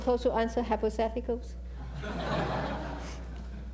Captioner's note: laughter